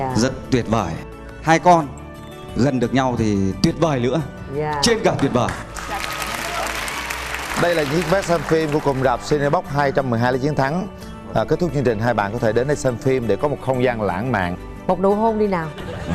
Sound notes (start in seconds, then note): 5.0 applause; 15.9 laugh